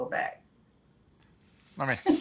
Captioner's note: laughter